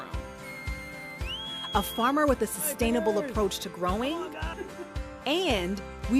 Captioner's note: whistles